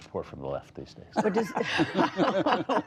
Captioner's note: laughter